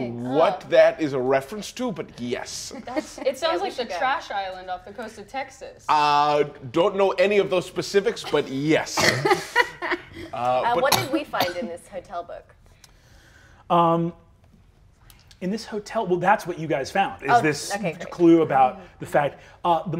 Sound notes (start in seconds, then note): 8.1 players laughing